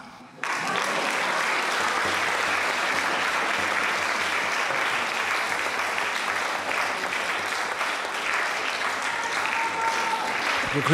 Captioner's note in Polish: aplauz